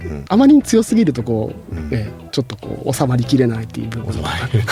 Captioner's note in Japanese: 咳払い